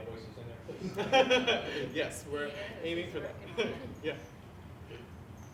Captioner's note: laughs